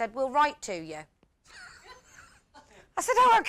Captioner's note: laughter